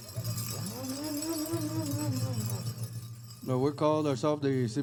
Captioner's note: bells jingling